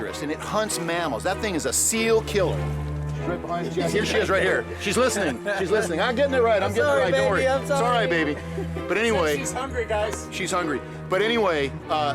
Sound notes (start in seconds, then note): 5.1 laughs